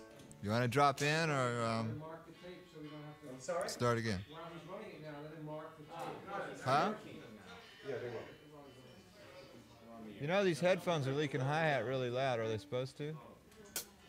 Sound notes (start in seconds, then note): 3.8 indistinct chatter